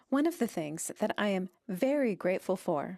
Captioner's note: speaking French